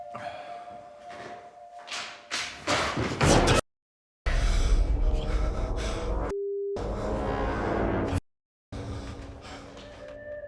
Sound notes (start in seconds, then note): 0.4 Danny sighs; 2.9 books thudding; 4.3 heavy breathing; 4.3 dramatic music; 8.8 light dramatic music